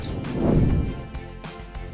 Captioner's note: air whooshes; bright music